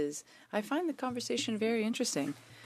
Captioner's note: speaking French